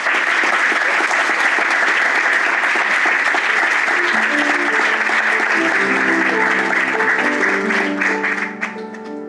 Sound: applause and music

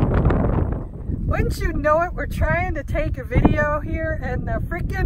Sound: very windy

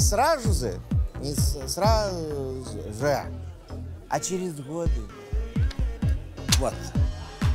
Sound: slurring the words

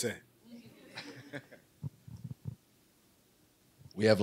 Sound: laughing

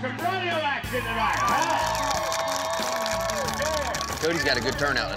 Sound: clapping, cheering

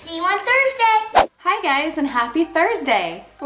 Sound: whooshing

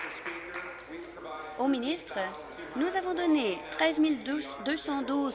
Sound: applause

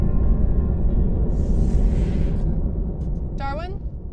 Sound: door whooshes

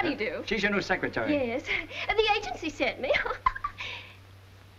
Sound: giggling

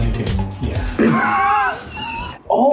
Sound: laughs

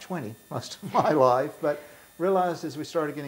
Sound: laughing

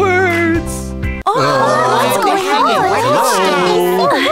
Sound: confused murmurs

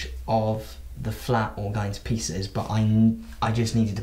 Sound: none

